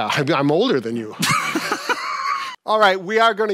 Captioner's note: laughs